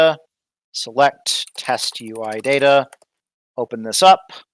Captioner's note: typing